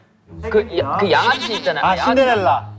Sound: mispronunciation

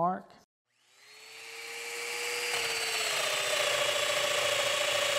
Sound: domino cutter motor running

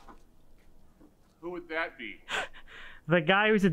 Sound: chuckles

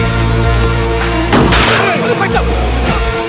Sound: gunshot

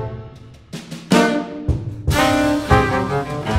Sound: none

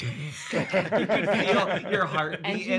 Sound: all laughing

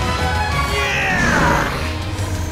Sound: grunting

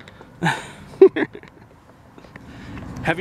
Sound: laughing

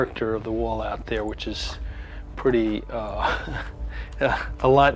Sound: chuckles

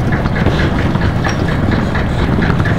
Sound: rumbling

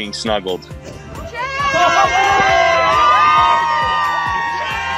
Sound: everyone cheers

